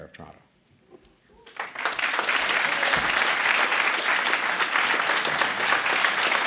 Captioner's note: applause